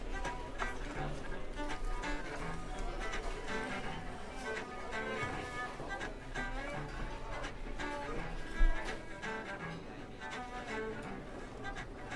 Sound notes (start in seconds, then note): 1.1 cafe sounds